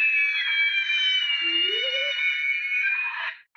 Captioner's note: screeching !